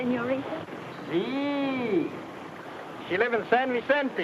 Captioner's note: speaks in foreign language